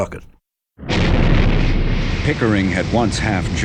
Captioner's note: rocket whooshing